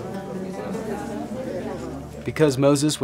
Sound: people talking

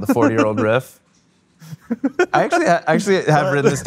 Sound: laughing

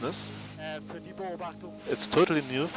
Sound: scientist speaking in German

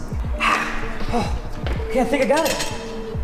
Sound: crying

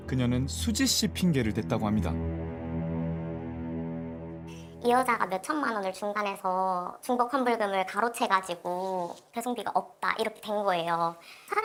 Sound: voiceover

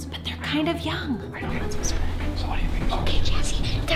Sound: continue whispering

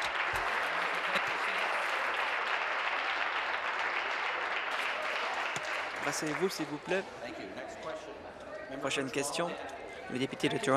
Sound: applause

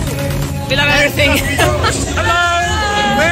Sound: laughs

